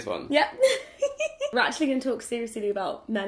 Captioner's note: laughs